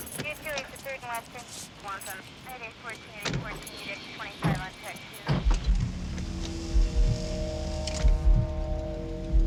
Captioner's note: police radio chatter